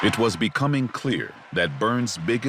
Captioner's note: crowd applauding